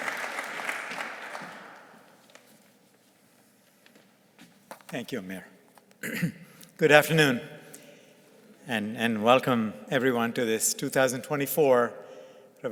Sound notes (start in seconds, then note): 1.8 shuffling